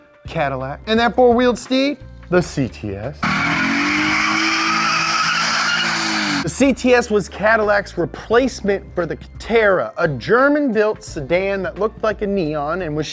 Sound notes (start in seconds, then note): 3.2 engine revs; 3.2 tires screech